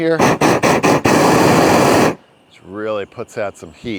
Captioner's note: torch roaring